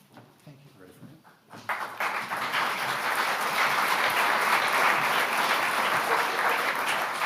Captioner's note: overlapping chatter; audience applauds